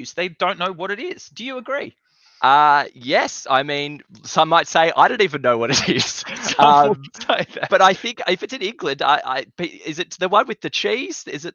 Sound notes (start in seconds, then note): 5.6 both laugh